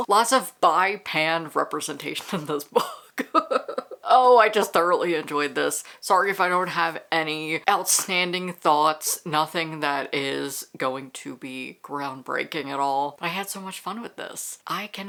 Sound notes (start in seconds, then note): 2.8 laughter